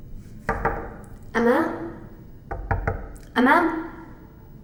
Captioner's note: knocking the door